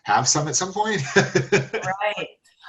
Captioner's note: laughs